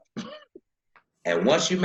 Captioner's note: laughing